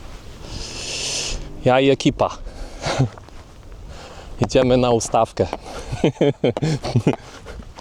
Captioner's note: rumble